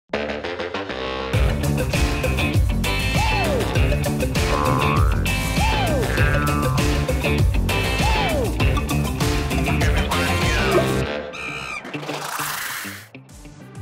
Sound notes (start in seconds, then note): 1.2 upbeat music; 11.3 monkey screams